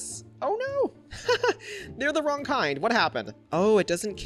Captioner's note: laughs